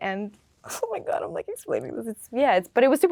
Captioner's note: laughing